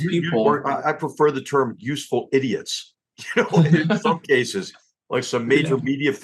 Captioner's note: laugh